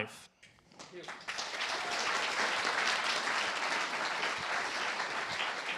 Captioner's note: applause